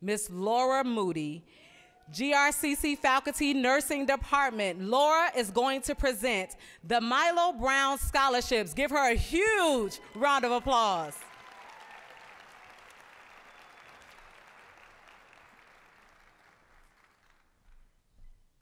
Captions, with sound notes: Ms. Laura Moody, GRCC faculty, Nursing department. Laura is going to present the Milo Brown scholarships. Give her a huge round of applause. (applause)